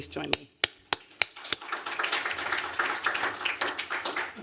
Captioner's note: applause